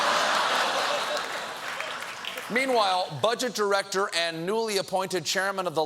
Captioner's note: laughter